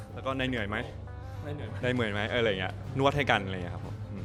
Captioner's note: whisper